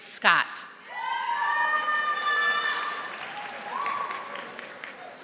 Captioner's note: audience applauding